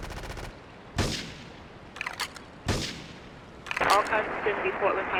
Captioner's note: gun firing